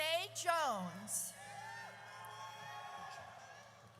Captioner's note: audience cheers